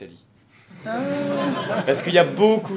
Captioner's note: everyone laughs